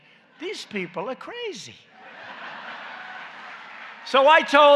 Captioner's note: laughter and applause